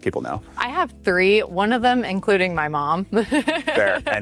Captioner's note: chuckles